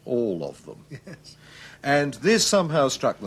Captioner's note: laughs